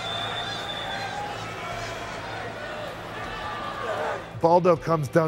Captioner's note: applause